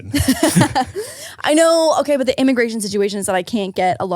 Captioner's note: laughing